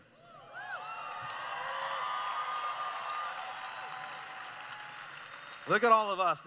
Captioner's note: cheering